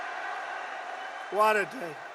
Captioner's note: applause